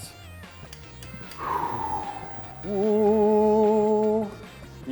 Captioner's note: air whooshes